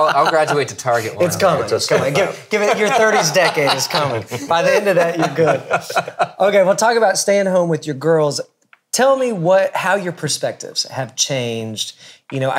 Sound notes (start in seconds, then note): 5.8 laughing